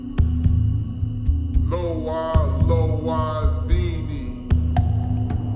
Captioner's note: chanting in foreign language